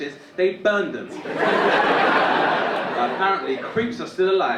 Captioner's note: audience laughing